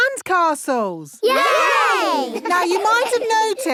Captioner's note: laughing